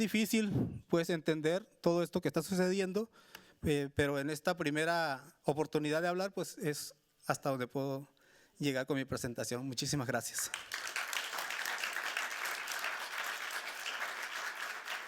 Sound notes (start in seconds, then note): 3.3 speaking Spanish continues; 10.3 audience clapping